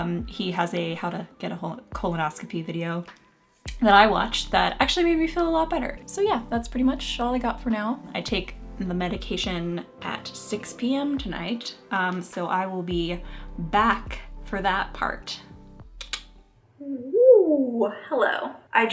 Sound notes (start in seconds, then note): 16.0 tongue clicking